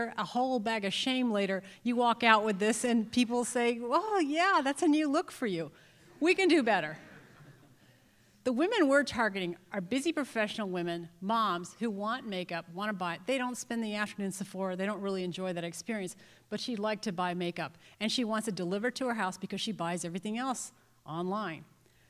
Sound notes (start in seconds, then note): 7.0 laughter